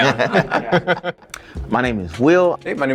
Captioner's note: laughing